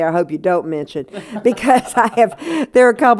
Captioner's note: laughter